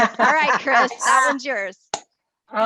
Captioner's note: laughter